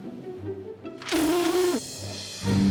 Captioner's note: blows raspberry